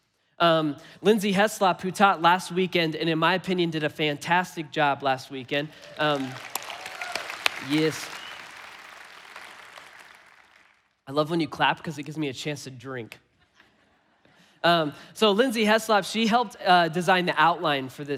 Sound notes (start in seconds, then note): 5.6 congregation applauding; 5.6 congregation cheering